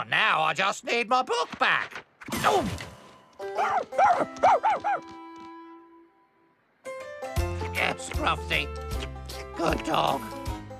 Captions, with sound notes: NOW I JUST NEED MY BOOK BACK! OOF! ( Barking ) ( Sighs ) YES, SCRUFFTY. GOOD DOG.